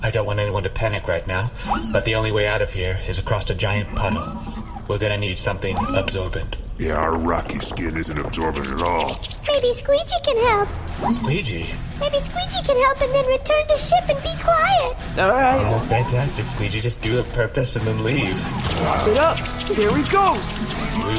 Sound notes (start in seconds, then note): 9.0 mop noises; 11.2 synth-rock theme fades in; 17.8 sounds of mopping